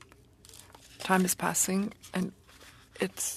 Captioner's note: speaking French